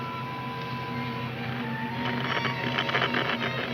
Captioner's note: radio crackles